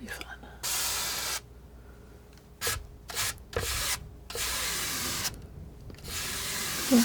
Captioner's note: scratching